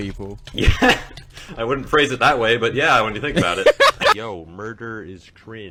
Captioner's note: laughs